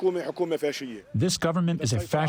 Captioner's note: through translator